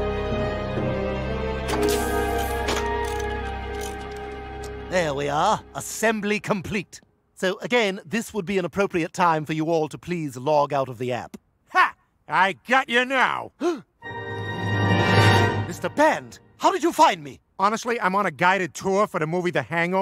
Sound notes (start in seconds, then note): 13.5 gasps